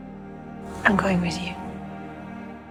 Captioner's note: voiceover